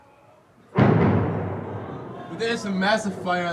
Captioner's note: explosion bangs; man shouting faintly; explosion bangs